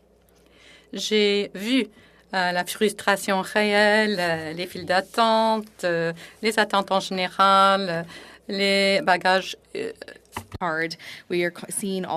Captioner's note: speaking French